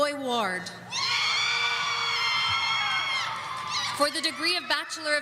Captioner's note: audience screaming